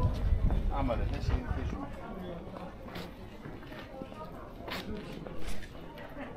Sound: people chattering

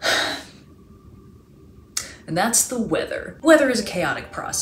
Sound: sigh

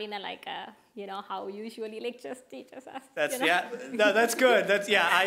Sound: laughing

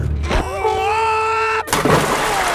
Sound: גליאס צורח

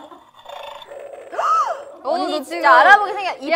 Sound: growling

